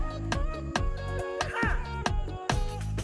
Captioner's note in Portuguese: grita